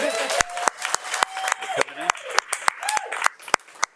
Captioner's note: audience cheering